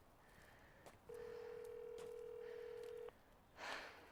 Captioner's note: timbre de la línea telefónica